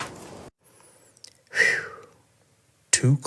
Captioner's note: Christopher exhales